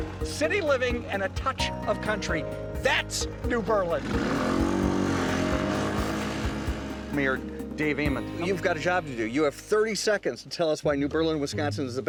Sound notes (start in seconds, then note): 3.5 engine revving